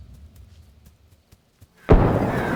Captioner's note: loud bang